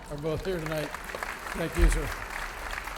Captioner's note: audience applauding